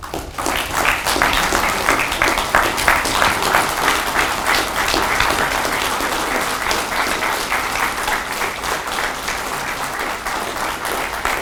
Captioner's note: audience clapping